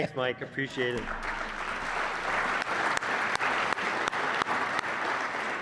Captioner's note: audience applauds